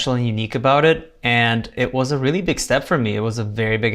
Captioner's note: none